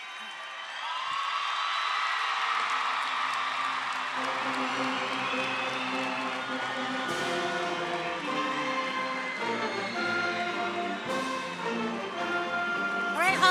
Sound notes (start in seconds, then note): 1.2 crowd cheers